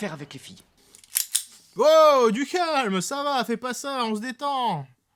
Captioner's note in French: Bruit de flingue